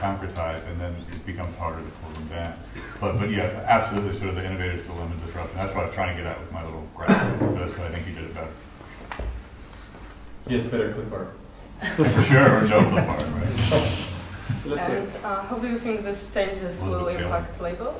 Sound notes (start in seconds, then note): 11.8 laughter